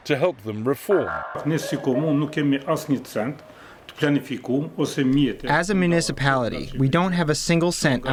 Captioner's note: through translator